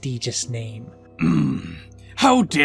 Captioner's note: Eggman angrily moans